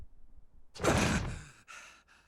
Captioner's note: gasps